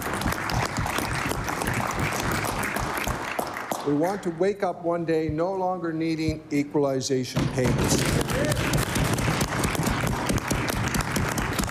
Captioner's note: applause